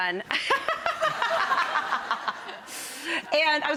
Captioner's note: audience laughing